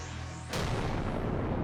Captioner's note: boom